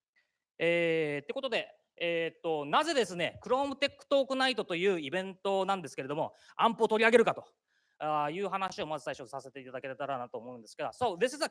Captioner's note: speaking japanese